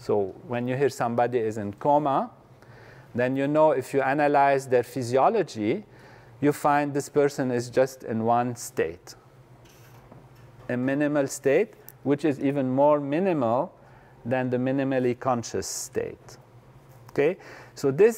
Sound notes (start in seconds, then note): none